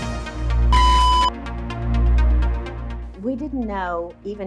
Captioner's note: machine beeps